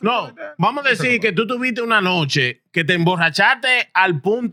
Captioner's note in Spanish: Hablando en idioma extranjero